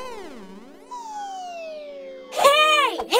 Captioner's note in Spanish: none